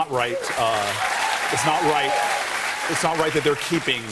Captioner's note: cheers and applause